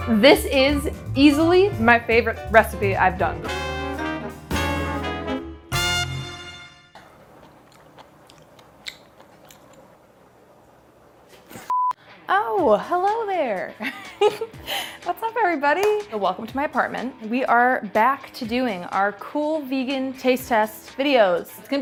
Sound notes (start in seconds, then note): 3.5 jazz music; 6.9 chewing; 13.8 giggling